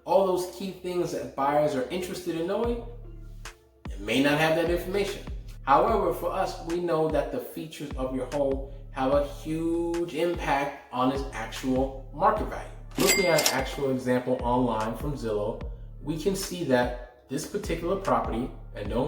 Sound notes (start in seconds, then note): 13.0 cash register chimes